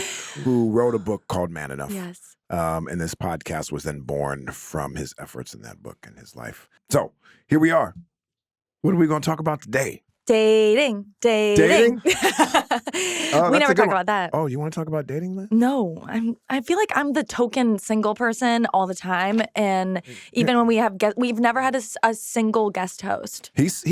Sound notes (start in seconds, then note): 11.5 laughing